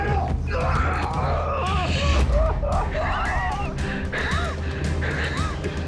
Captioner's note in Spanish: Gemidos